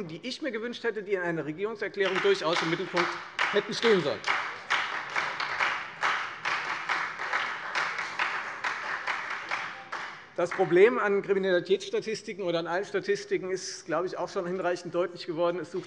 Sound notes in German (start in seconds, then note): 2.0 Beifall Freie Demokraten und vereinzelt SPD